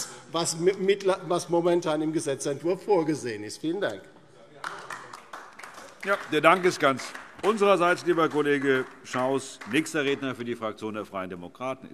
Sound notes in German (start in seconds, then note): 4.6 Beifall DIE LINKE